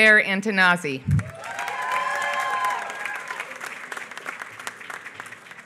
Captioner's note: applause